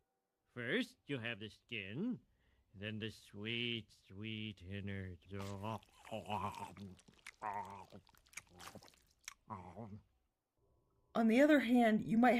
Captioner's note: eating noises